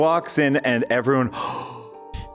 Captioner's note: gasps